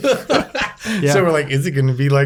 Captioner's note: laughing